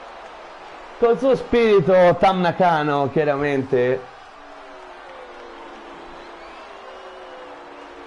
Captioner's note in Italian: Applauso; Applauso